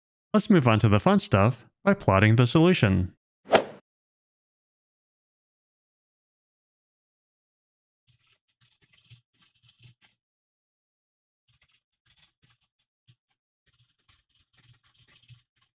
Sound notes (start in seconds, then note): 3.5 golf ball hit sound effect; 6.7 typing sounds